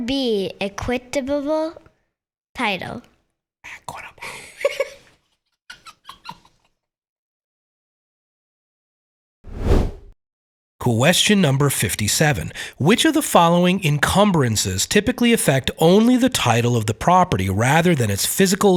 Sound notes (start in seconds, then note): 3.4 whispers; 4.2 laughs